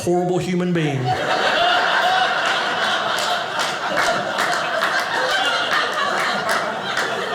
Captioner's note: audience laughing